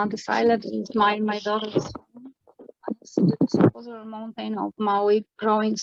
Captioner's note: distorted sound